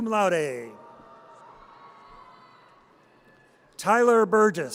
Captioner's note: audience cheers